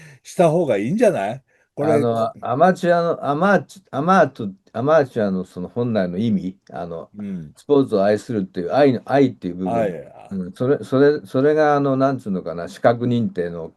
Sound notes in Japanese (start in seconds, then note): 9.7 咳払い